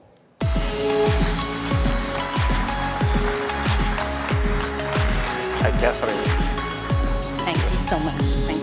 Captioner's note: applause